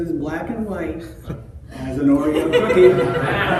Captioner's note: laughter